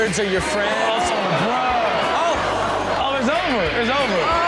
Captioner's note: audience exclaims